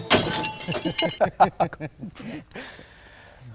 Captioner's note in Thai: เสียงหัวเราะ